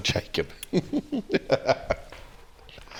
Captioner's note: laughs